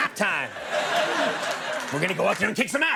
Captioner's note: audience laughing